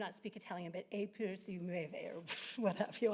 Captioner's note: speaking Italian